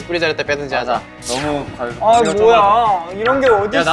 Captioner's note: whiny